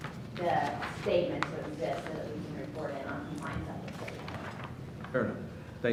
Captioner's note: speaking off mic